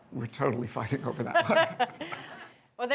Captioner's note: Bridget laughs